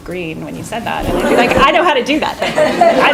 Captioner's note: laughing